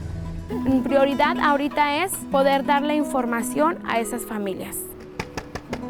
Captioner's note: car engine revs; speaks in foreign language